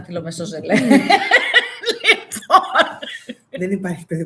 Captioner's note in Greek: γέλια